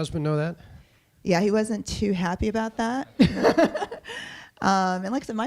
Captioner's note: chuckles